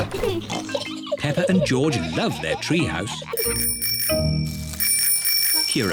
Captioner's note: bicycle bells ringing